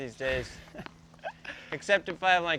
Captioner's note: laughs